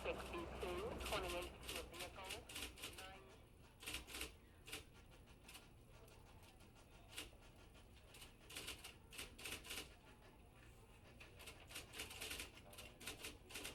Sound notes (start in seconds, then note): 3.0 typewriter clacking